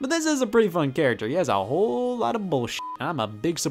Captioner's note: beep